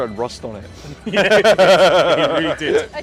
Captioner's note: laughs